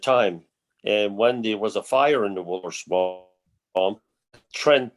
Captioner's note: mutters